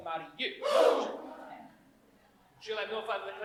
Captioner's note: all gasp